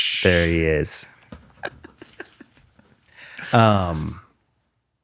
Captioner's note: laughter